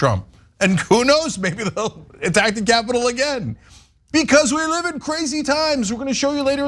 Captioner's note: laugh